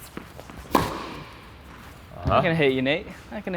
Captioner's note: ball thumps